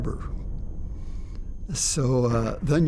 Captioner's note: bombs exploding